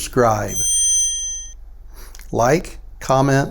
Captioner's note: bell chimes